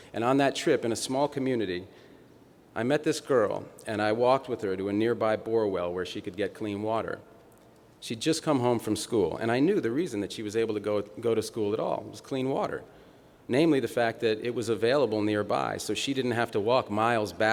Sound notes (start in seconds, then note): none